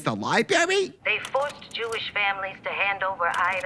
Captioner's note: Ethel over phone